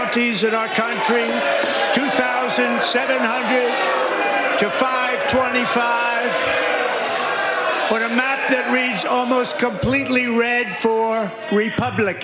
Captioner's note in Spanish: gritos